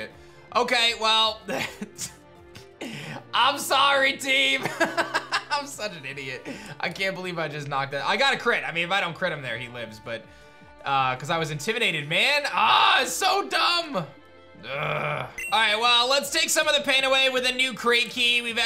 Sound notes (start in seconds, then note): 1.5 chuckles; 4.6 laughs; 14.6 groans